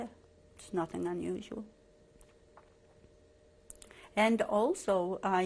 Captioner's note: pauses for 3 seconds